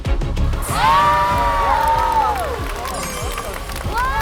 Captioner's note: loud cheers